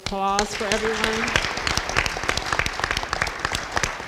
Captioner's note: all applaud